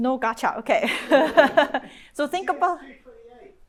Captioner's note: chuckles